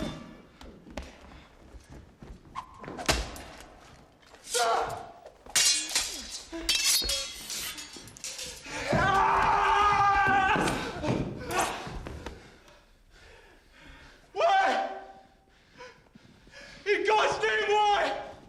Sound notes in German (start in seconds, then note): 5.6 Stöhnt; 8.8 Geschrei; 18.3 Hufschlag nähert sich